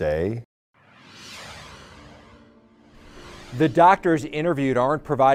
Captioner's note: logo swooshes